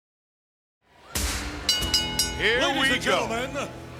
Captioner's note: bell rings